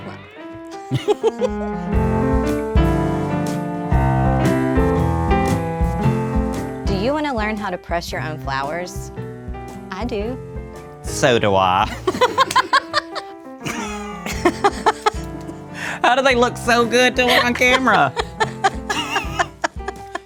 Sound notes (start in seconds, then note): 0.7 both laugh; 11.9 both laugh